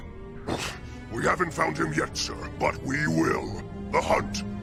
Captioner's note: grunts